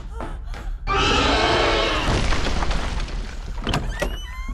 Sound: Red Sister screams

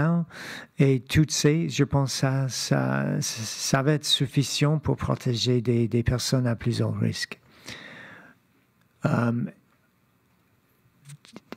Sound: speaking French

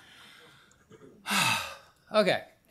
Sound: sighs

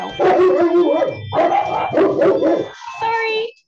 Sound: dogs barking; doorbell chiming

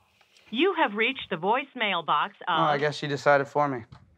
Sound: automated Voice

